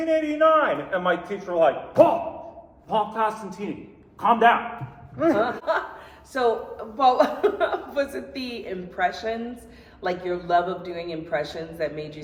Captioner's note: laughs